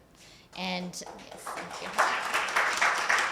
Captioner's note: applause